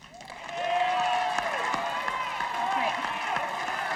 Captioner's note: audience applauding